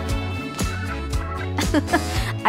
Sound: chuckle

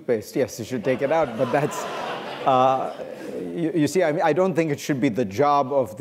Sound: laughter

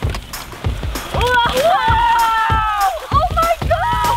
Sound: screaming

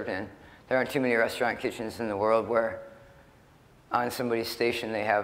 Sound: none

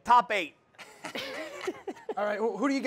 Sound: laughs

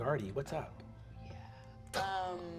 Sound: whispered

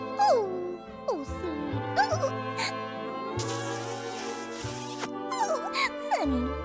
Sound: giggling

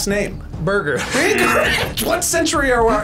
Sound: laughs

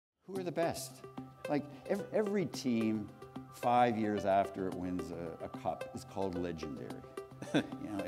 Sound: chuckle

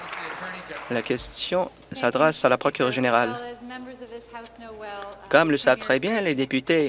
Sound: applause

